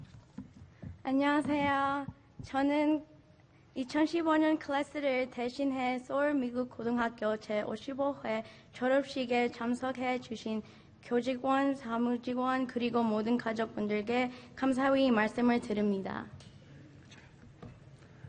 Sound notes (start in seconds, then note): 1.2 speaking in Foreign Language